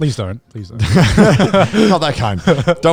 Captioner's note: group laughs